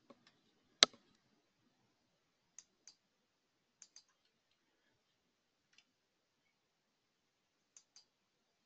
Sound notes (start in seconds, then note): 3.8 computer keys clicking